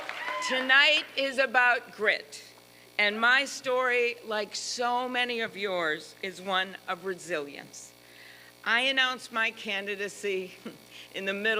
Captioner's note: applause